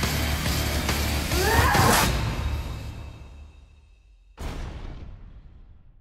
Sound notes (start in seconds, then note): 1.2 grunts